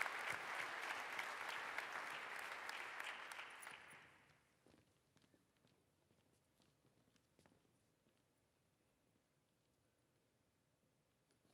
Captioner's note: applause